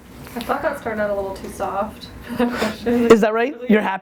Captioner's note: voiceover